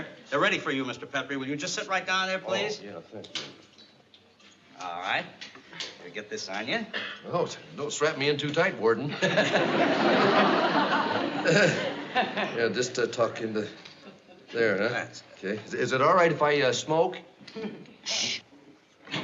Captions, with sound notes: They're ready for you, Mr. Petrie. Will you just sit right down there, please? Oh, yeah, thank you. All right, let me get this on you. Oh, don't strap me in too tight, warden. [CHUCKLES] Yeah, just talk into there, huh? Yes. Is it all right if I smoke? Shh.